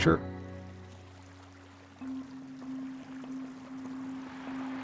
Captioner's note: water burbling